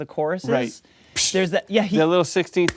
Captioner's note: imitates cymbal